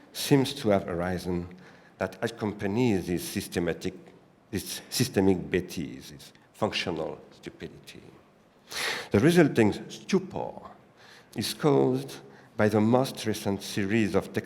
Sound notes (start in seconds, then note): 4.9 french